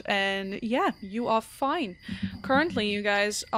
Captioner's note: dice thumps